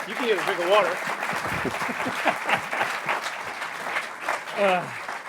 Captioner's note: applause